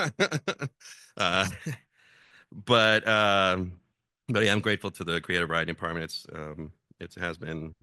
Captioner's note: laugh